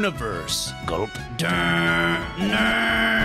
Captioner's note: wily gulps